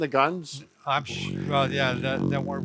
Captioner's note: buzzing